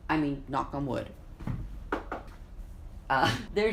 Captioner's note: knocks